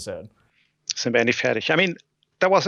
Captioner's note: speaking German